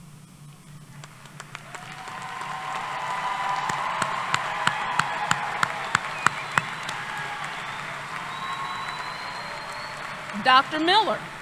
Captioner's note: applause